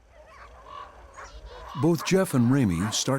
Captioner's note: dogs barking